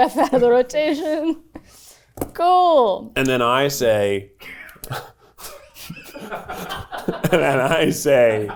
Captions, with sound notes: outta the rotation. Cool. - And then I say, (everyone laughing) and then I say,